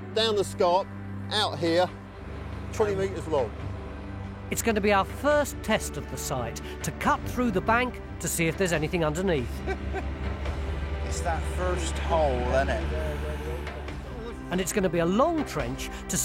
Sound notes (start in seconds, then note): 9.5 laughs